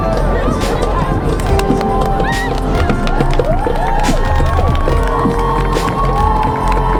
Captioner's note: clapping